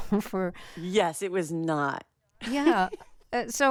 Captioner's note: laughter